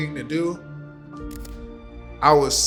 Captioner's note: camera clicking